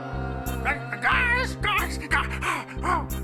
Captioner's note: צווחות